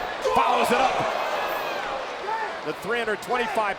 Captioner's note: crowd exclaiming